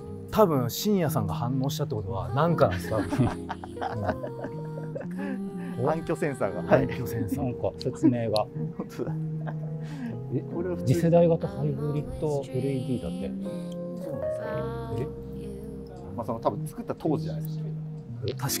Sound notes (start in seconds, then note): 2.8 laughing